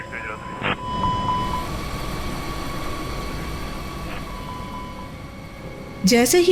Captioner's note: intense plane engine sound